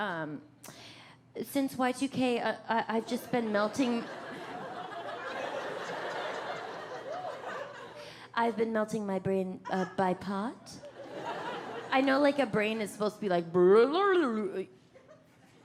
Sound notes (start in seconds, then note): 3.0 audience laughing